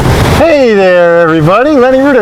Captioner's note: gentle waves